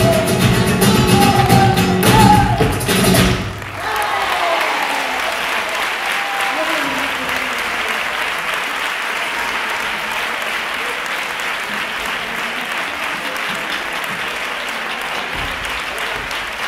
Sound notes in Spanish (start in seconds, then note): 3.1 aplausos